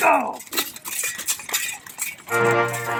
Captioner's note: armor clanks; dramatic music